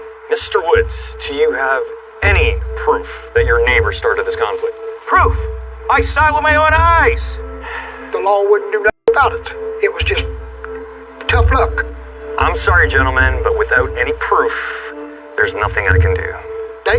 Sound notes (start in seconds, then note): 5.2 shouts; 6.8 officer sighs